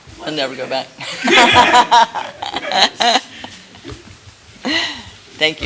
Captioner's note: laughter